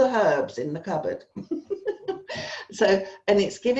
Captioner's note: laughs